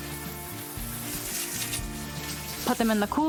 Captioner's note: hose spraying